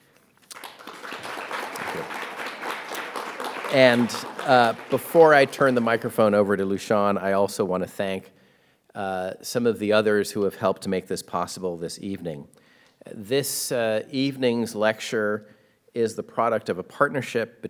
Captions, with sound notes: (audience applauds) Thank you. And before I turn the microphone over to Lu-Shawn, I also wanna thank some of the others who have helped to make this possible this evening. This evening's lecture is the product of a partnership